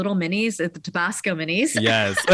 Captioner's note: laughs